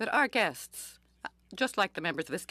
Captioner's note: speaking French